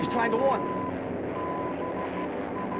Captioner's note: beeping